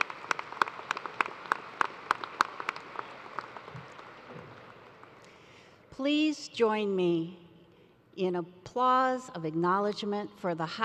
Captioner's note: applause